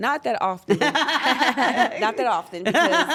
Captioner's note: laugh